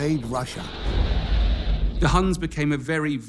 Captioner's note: crowd cheers